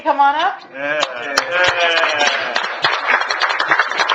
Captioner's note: applause